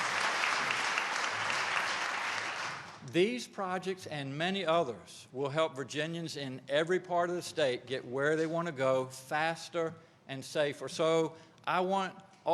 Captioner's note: applause